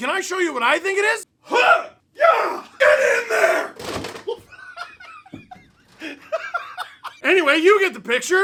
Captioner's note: yelling, kicking noises; laughs